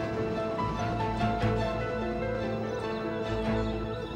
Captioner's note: train rumbling